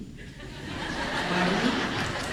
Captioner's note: laughter